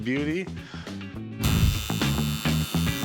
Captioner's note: buzz